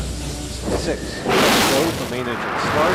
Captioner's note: engines firing